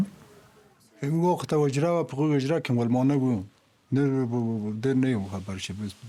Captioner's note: speaking Pashto